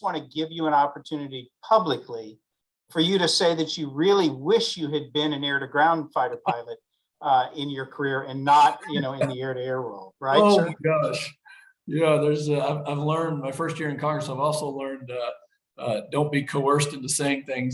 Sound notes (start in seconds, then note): 10.3 laughs